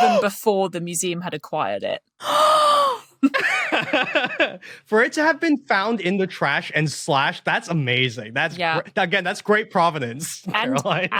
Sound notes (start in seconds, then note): 2.2 gasp; 3.2 laughs